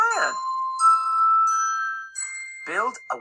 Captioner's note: chimes